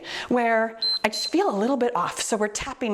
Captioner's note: timer beeps